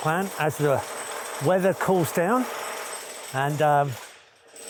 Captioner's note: drill whirring